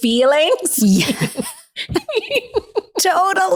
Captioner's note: both laughing